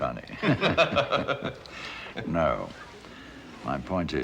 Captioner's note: laughter